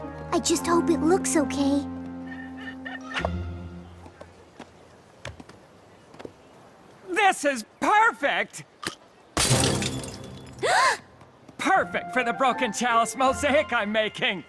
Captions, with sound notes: I just hope it looks OK. This is perfect! (smash) (gasp) Perfect for the broken chalice mosaic I'm making.